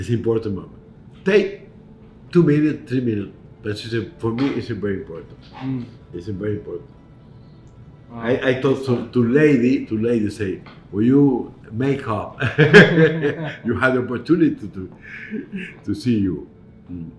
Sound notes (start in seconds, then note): 12.4 laughs